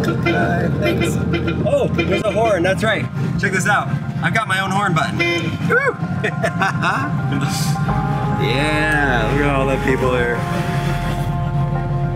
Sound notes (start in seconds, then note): 0.0 horn honking; 4.6 horn honking; 5.7 laughing